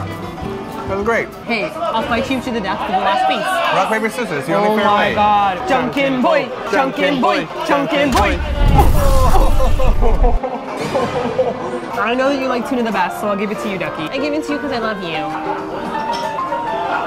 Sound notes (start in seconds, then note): 9.0 cries